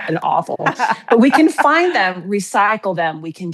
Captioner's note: chuckles